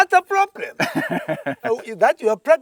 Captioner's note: laughing